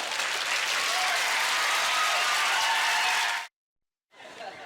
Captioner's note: cheers and applause; audience laughter